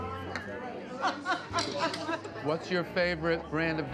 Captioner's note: Julia laughs